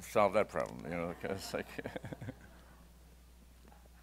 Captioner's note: laughs